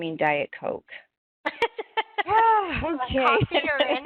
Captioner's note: laughter